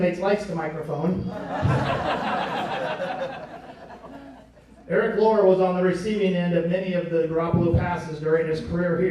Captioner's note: laughing